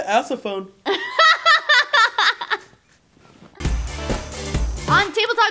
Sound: laughs

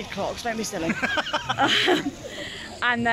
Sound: laughs

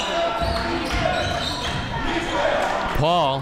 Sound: crowd

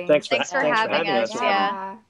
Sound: indistinct chatter

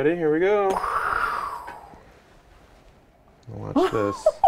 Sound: breathing heavily; woman laughing

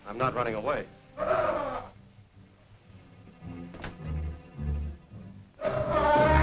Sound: Andy screaming; tense music

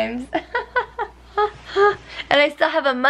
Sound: laughs

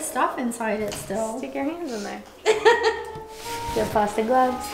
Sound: laughing

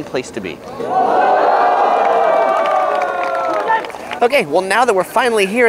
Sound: crowd cheering

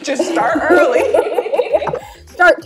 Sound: both laughing

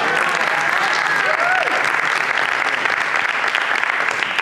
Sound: applause

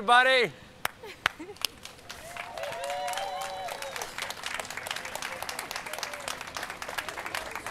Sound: audience cheering

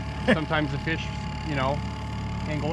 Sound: chuckling

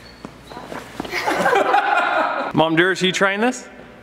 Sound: laughing

